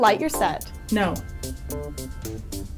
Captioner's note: voiceover